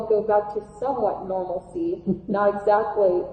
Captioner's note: laughing